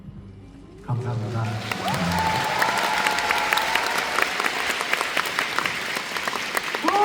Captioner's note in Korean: 박수